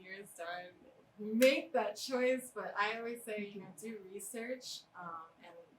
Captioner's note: claps